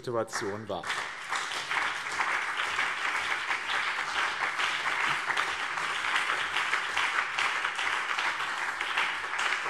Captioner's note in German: Beifall BÜNDNIS 90/DIE GRÜNEN und CDU